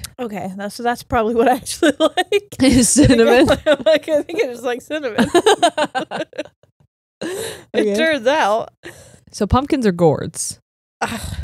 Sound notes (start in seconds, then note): 1.8 laughing; 6.6 both laugh